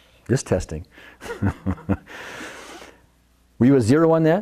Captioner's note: laughs